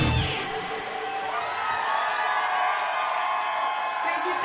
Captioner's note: audience cheering